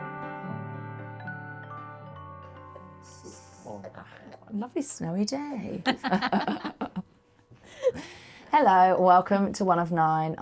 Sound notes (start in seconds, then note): 5.8 laughter